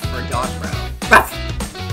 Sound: ruff

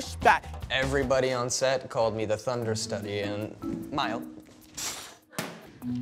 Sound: sighs

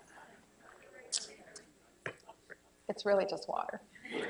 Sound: laughter

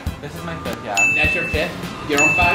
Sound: ringing sound

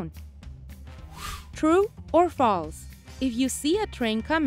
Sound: air whooshes

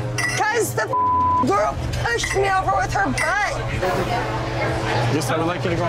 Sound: beeping

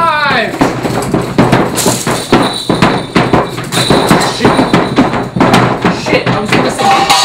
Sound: sounds of shaking

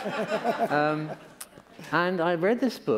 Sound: laughter

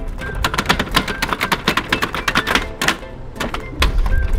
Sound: rattling

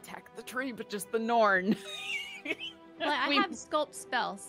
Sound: laughs

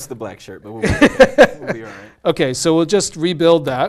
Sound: laugh

